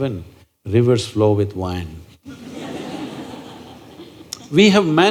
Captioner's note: laughter